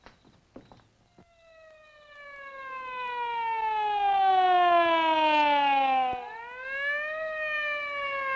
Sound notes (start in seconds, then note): 1.0 siren blaring